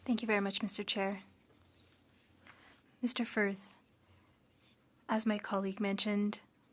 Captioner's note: speaking French